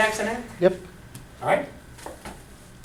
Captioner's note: voiceover